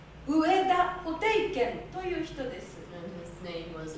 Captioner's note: speaking Japanes